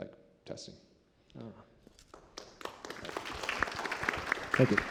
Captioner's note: applause